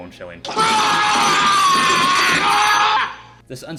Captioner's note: screaming